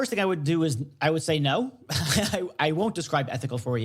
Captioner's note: chuckles